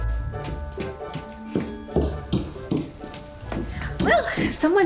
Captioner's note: fast footsteps